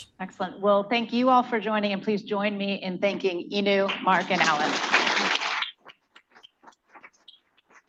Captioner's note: applause